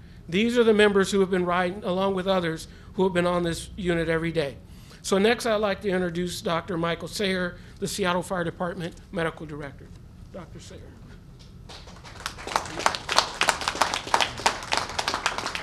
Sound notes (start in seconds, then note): 11.6 applause